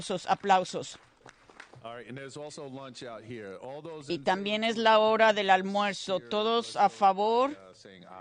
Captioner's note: applause